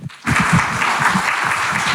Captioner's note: audience applauding